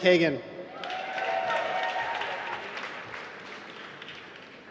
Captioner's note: applause